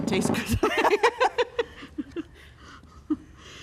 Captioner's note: laughter